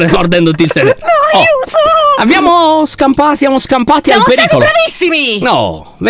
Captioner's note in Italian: Strecatto piagnucola